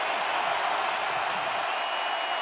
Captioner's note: crowd cheering